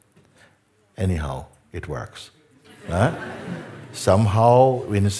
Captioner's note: Lachen